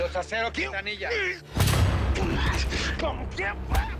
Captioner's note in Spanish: Golpes